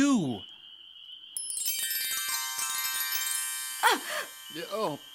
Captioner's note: sound of chimes